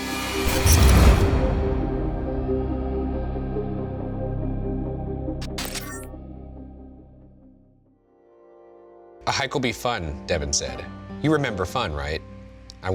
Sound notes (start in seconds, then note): 0.1 tense music; 5.4 beeping; 5.6 static hissing